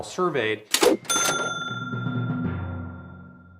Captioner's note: cash register chiming